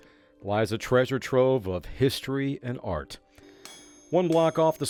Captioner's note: sound of Hammer Pounding an Anvil